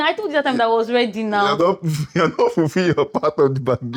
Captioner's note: laughs